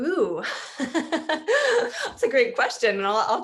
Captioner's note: laughs